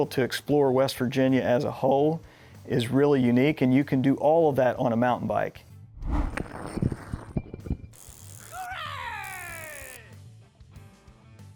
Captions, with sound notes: to explore West Virginia as a whole is really unique, and you can do all of that on a mountain bike. (Biker yelps)